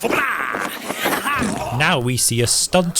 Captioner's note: splat